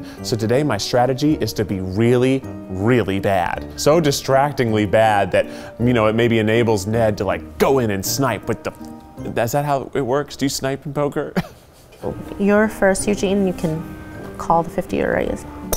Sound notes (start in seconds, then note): 11.4 laughs